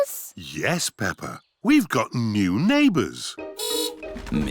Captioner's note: horn beeps